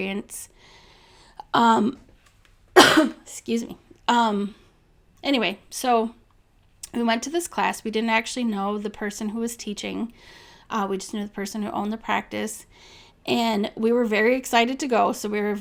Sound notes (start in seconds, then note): 2.7 cough